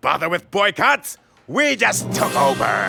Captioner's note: none